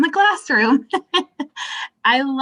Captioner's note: laughing